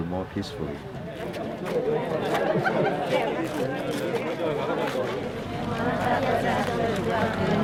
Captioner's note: group chattering; foreign language